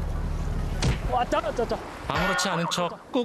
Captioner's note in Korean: 쿵!